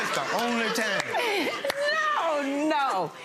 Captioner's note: laughing